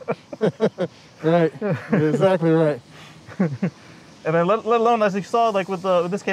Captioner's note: laughter